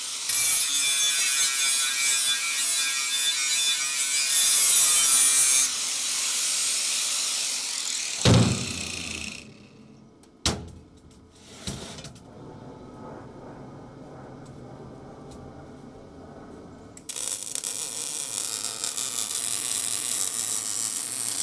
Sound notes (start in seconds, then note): 0.3 metal grinding; 17.0 welding torch buzzing